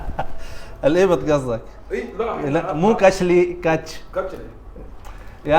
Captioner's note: laughing; Arabic